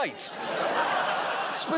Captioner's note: studio audience laughing